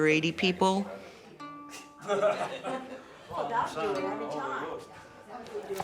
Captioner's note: people chatting indistinctly